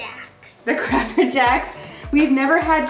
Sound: laughing

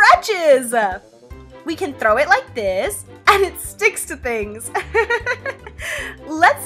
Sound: laughs

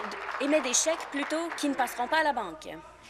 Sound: applause

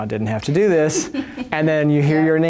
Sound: laughter

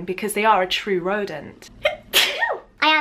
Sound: sneezes

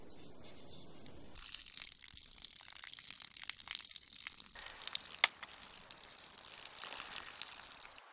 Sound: urinating

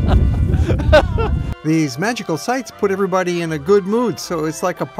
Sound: laughter

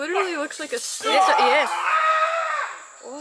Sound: climber screams loudly in the background

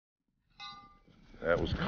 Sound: bell clangs

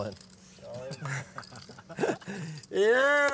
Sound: laughter

